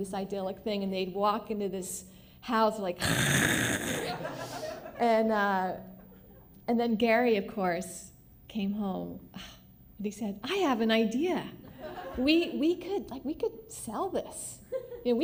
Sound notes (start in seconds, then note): 3.0 mechanical noise